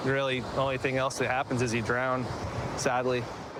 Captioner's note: none